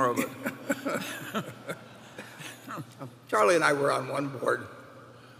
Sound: laughter

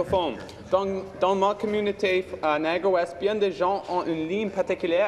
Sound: speaking in French

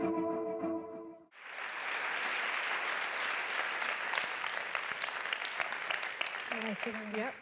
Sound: applause

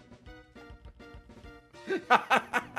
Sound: laughs

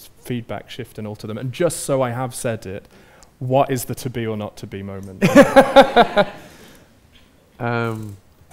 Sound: Andrew laughs

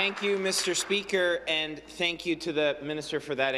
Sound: some Applause

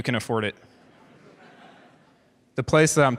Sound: audience chuckles

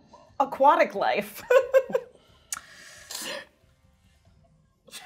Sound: laughs

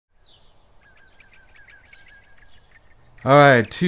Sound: birds chirping

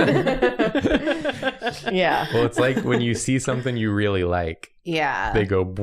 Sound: laughter

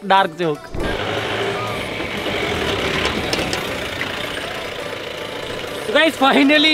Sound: engine vrooming

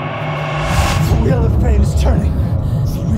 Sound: pulsing noises

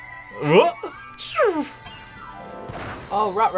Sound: imitates sound effects

